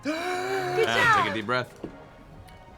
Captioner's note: gasps for air